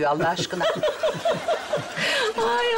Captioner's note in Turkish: Gülme sesleri